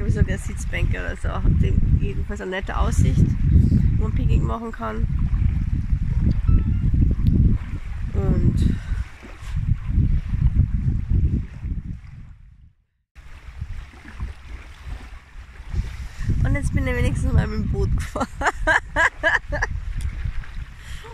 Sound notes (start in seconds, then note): 5.2 waves and wind; 9.7 waves and wind; 13.1 waves; 18.1 laughing